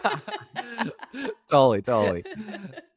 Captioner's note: both laughing